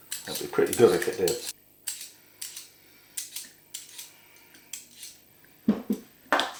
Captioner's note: the sound of a potato peeler